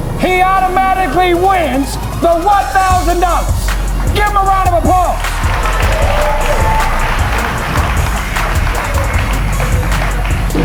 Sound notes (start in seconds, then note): 5.9 spectators applauding